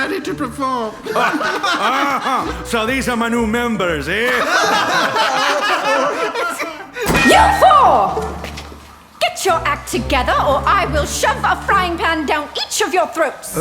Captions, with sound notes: PETER I'm ready to perform! MOODY Ah...so these are my new members, eh? (maximum laughter) MOLLY WEASLEY YOU FOUR! Get your act together, or I will shove a frying pan down each of your throats!